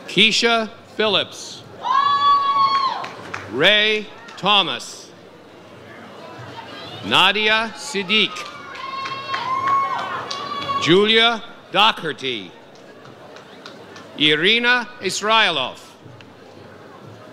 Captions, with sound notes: Kiesha Philips. (audience cheers) Ray Thomas Nadia Siddique. Julia Dacarte. Irina Israiloff.